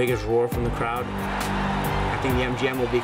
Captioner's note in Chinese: 歡呼聲和鼓掌聲